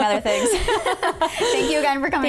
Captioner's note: laughing